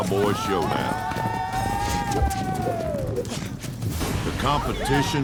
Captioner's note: cowboys cheering